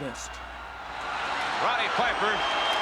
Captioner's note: audience cheers